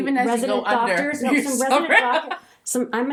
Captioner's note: laughs